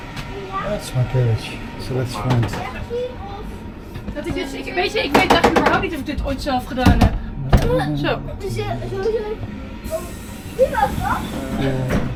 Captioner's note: people talking dutch